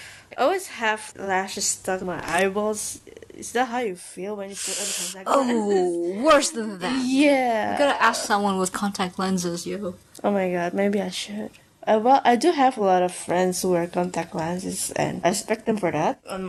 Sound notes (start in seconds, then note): 4.5 hissss